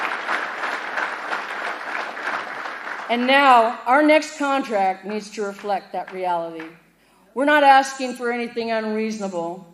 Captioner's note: applause